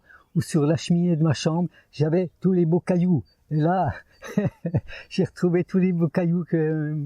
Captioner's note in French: rires